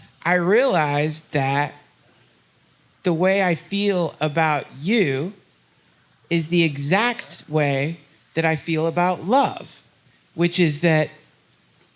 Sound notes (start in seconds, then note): none